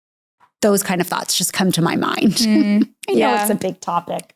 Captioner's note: chuckles